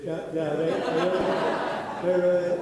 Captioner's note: audience laughing